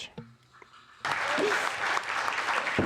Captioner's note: applause